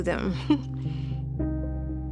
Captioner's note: chuckles